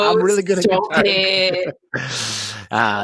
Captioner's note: laughter